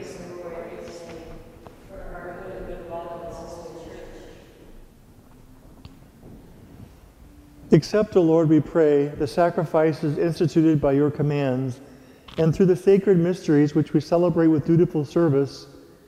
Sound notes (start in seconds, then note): 7.1 off microphone